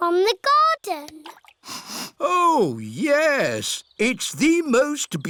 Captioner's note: sniffs